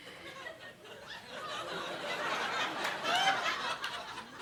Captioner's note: audience laughing